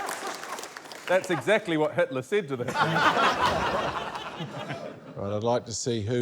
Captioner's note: laughter